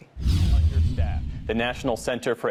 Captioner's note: screen whooshes